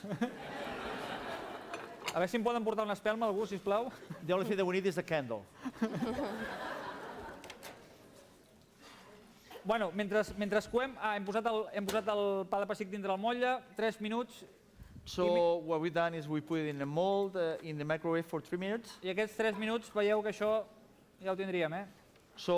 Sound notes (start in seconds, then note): 0.0 laughter; 3.0 non-english speech; 5.6 laughter; 11.6 non-english speech; 20.5 non-english speech